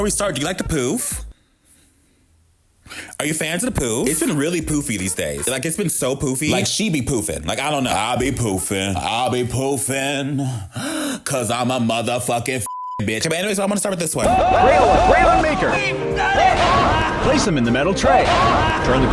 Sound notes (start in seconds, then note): 12.6 beep